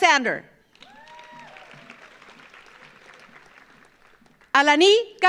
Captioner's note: audience applauds